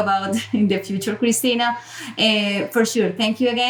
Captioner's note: chuckling